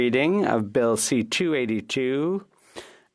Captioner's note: speaking French